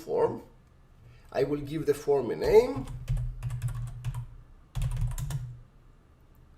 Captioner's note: keyboard typing